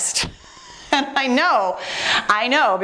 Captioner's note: laughing